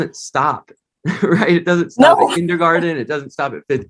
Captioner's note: laughter